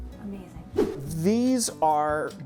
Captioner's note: air whooshing